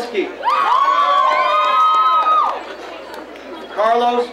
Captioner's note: crowd cheering